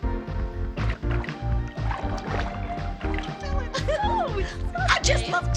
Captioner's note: record scratching